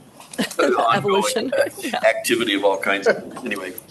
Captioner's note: chuckles